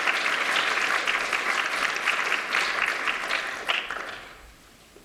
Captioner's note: applause